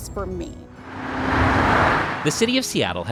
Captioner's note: freeway traffic hums